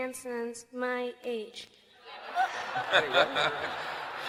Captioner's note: laughter